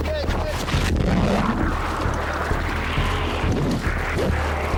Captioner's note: crew member shouting; water gurgling; engine humming